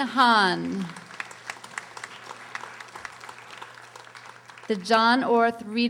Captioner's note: audience applauding